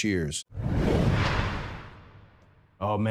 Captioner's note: screen whooshing